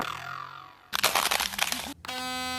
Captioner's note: sproing; walking on icy gravel; wrrrrrr